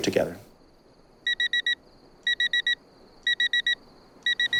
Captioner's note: alarm beeping